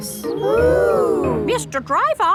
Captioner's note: kids gasps in awe